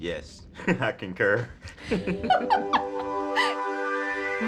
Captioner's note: laughs; laughter